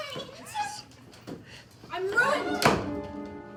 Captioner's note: slam